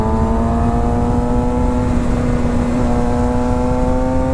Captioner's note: engine revving